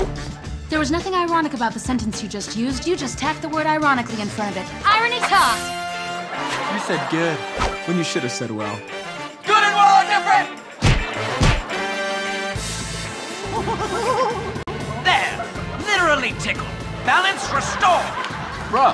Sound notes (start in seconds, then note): 10.8 smack; 13.4 laughter